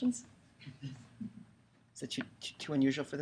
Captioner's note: chuckling